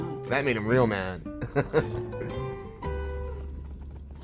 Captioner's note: giggles